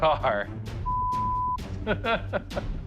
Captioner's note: laughs